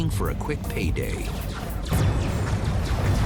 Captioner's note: laser weapon sounds